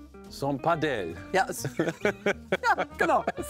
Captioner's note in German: Lachen